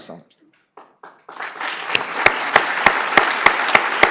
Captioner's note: applause